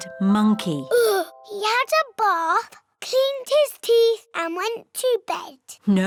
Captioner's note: sighs